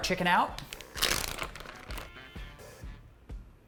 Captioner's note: bag unzips